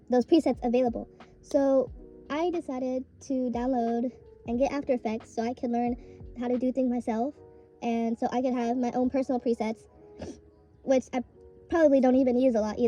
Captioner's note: sniffle